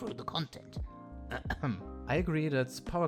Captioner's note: clears throat